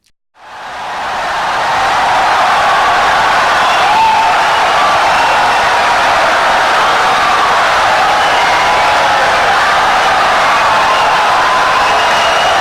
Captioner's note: wild applause and cheering for 17 seconds